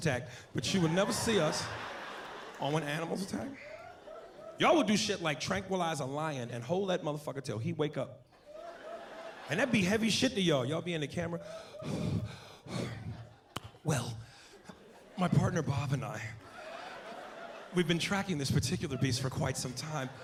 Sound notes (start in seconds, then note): 11.5 panting